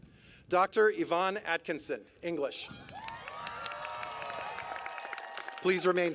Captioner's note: applause